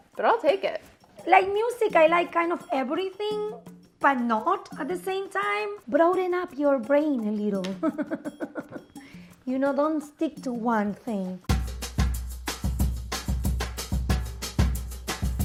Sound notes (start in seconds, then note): 7.8 laughing; 11.4 upbeat music